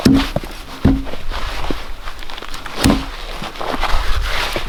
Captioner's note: logs thudding